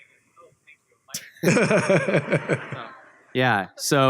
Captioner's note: laughter